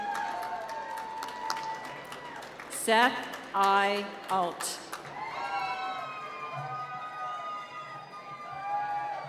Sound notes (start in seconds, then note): 4.9 cheering